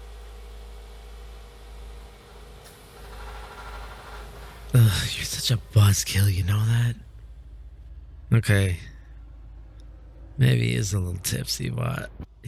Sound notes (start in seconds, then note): 4.9 SFX: Car doors opening, then closing, then the car turning on